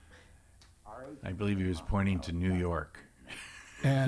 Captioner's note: laughs